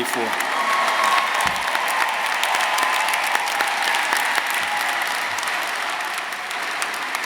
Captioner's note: audience applauding; audience cheering